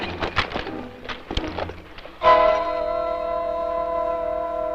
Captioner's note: none